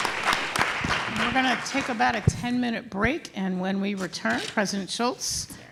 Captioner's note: applause